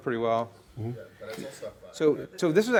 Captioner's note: voiceover